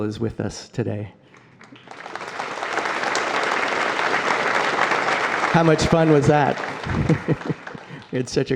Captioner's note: applause